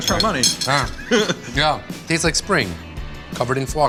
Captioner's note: laughs